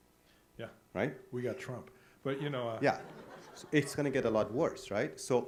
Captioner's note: audience laughs